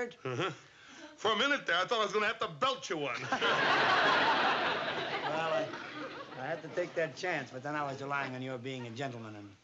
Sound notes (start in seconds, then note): 3.1 laughter